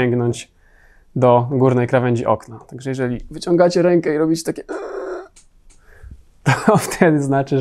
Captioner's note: screeching zombie noise